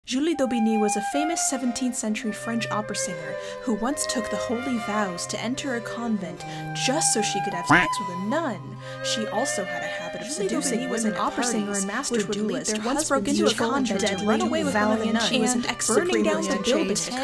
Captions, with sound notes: - Julie d'Aubigny was a famous 17th century French opera singer who once took the holy vows to enter a convent just so she could have (beep) with a nun. She also had a habit of seducing women, was an opera singer and master duelist. (multiple voices clamoring)